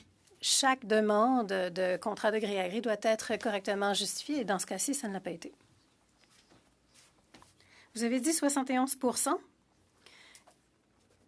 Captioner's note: speaking French